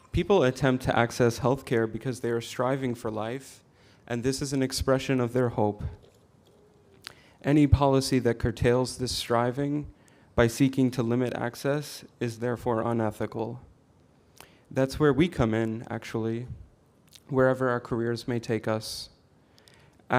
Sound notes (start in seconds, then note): none